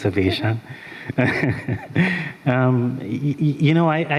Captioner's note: chuckles